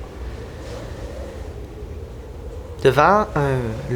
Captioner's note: howling winds